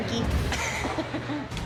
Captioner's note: laughing